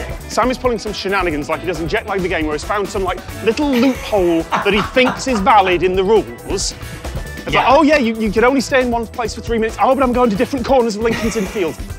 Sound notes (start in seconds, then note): 6.4 laughs